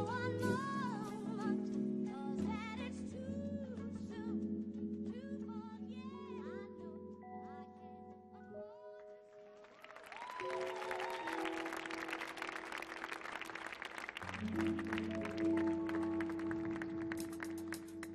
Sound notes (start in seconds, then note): 9.5 audience applauding; 9.7 audience cheering; 14.2 relaxing jazz music